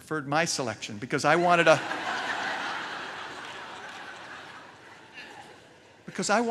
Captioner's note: laughter